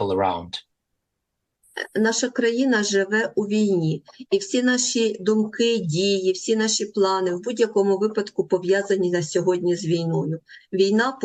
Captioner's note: foreign language